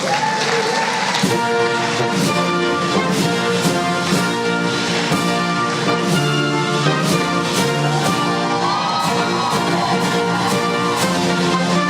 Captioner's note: applause